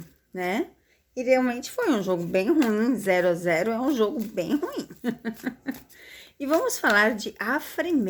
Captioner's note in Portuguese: risadas